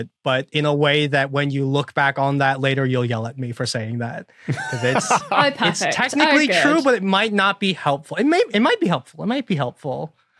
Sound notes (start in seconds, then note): 4.4 laughs